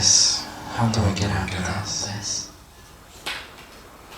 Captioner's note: echoing